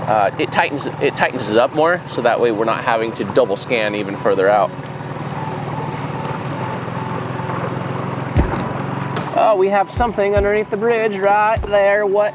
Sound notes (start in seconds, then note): 6.7 electronic beeps